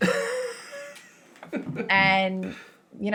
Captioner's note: laughing